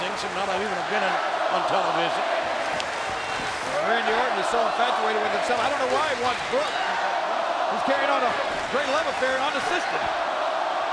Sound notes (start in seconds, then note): 2.8 crowd cheering